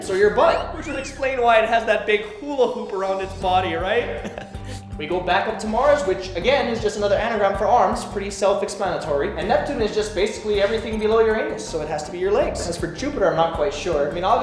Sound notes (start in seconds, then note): 4.1 giggles